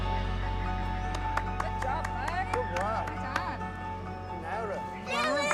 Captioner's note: claps